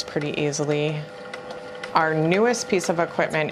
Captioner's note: machine running